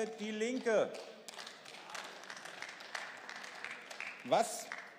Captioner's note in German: Beifall